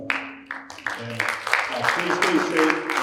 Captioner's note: audience applauding